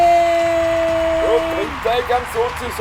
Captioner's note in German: Applaus